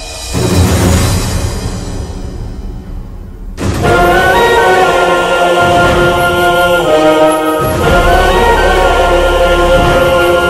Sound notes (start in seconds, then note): none